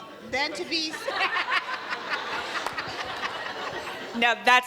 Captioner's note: audience laughs